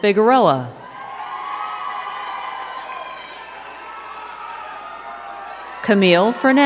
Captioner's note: crowd cheering and clapping